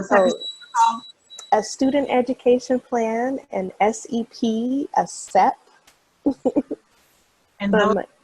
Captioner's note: laughs